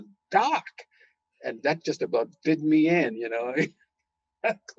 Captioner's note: laughing